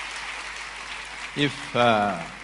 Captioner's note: applause